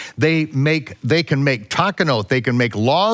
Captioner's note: speaks in foreign language